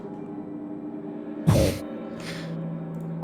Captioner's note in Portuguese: Bufa surpreso